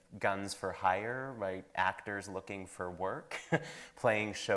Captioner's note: chuckles